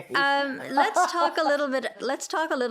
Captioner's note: laughing